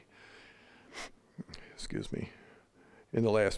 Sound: sniffling

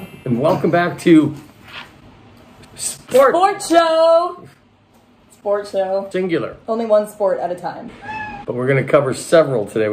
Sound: cat meows

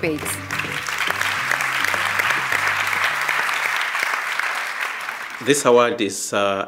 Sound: applause

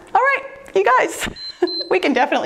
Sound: timer beeps

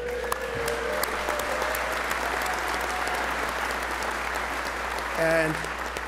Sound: applause

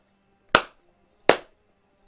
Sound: clap

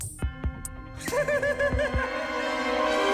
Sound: Tobey laughs like a maniac

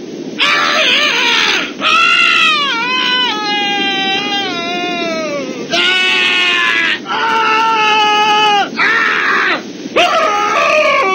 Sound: screaming

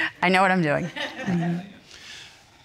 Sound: audience laughs

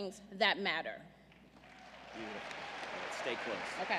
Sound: applause

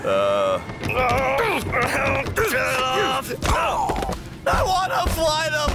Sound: groaning

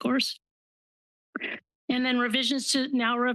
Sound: pause

